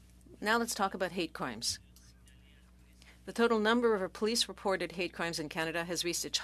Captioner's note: speaking French